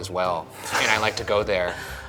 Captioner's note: laughing